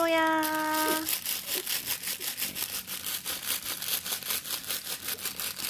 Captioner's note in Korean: 비닐 소리